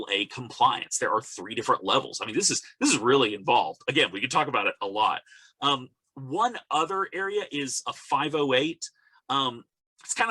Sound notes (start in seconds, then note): none